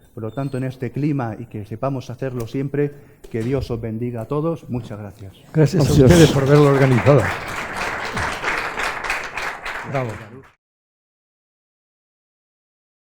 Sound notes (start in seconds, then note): 5.8 applause